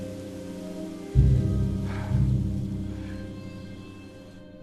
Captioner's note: Orlok sniffs the air and exhales